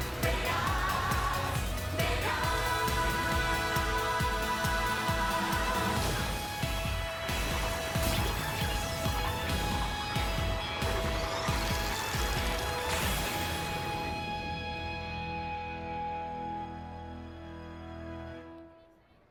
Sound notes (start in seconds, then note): 10.0 explosions; 14.3 song ends